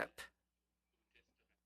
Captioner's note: speaking French